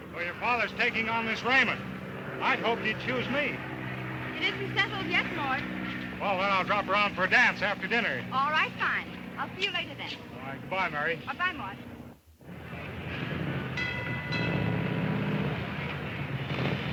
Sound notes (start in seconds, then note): 13.3 traffic sounding